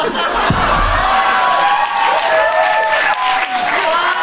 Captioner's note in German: Applaus und Jubel